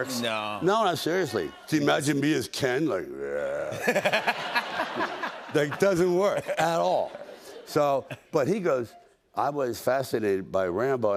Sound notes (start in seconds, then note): 3.3 growls; 3.7 laughter